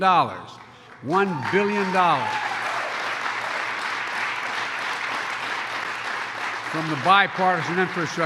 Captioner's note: applause